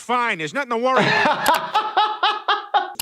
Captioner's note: he laughs